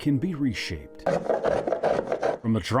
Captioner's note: tool scraping